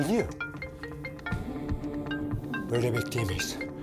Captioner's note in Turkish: Telefon Çalıyor